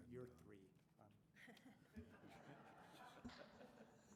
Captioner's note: laughter